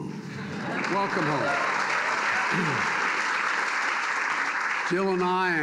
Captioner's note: applause